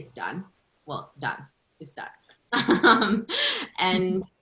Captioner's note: laughter